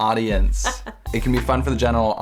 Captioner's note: laughs